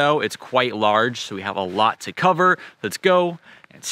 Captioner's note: air whooshing